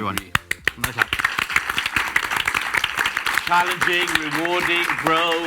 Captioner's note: audience applauds